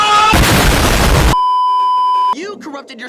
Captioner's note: kaboom; beeeeeep